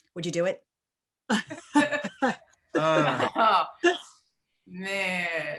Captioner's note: laughing